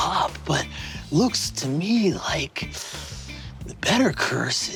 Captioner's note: hisses